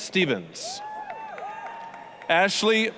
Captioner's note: applause, cheering